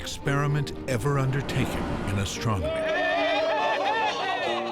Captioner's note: cheering